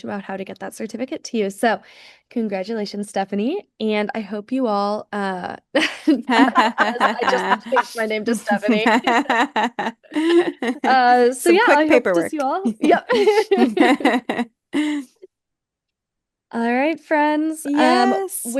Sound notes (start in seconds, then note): 5.8 laugh; 12.4 laughs